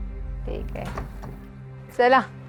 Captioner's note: door closing